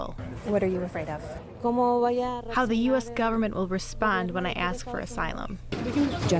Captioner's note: through translator